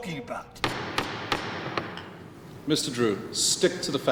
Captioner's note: gavel banging